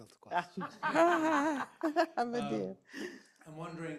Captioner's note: all laughing